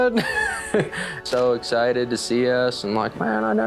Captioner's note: laughs